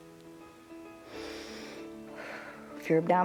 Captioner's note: inhales and exhales